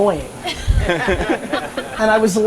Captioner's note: audience laughter